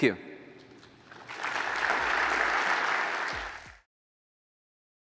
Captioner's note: applause